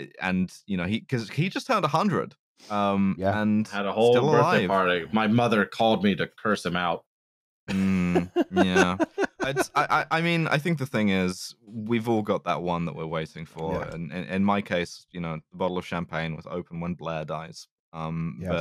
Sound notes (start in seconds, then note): 7.7 laughs